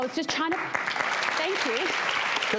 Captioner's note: audience applauding